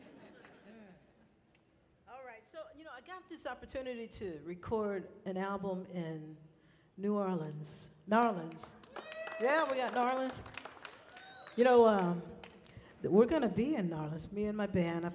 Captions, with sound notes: (people laughing) Alright, so, you know, I got this opportunity to record an album in New Orleans, New Orleans. (people cheering) Yeah, we got New Orleans. You know, we're gonna be in New Orleans, me and my band.